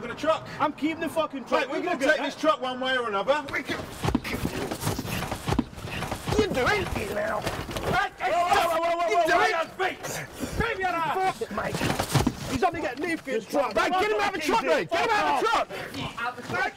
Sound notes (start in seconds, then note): 3.4 scuffling; 12.4 arguing